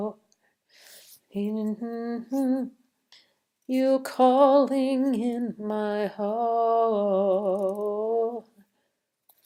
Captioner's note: hums